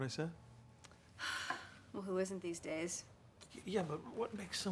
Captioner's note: sigh